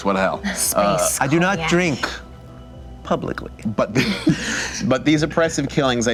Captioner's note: light laughter